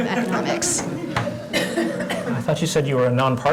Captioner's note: laugh